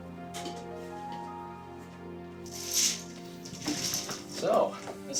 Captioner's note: bead curtain clatters